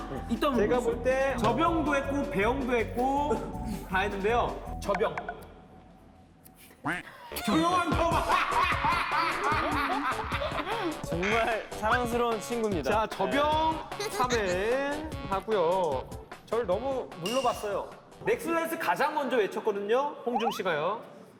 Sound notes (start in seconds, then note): 9.4 cracking up